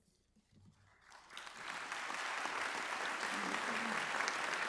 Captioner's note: audience applauds